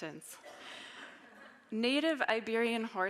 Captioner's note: audience laughing